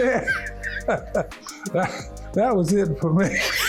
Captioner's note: laughing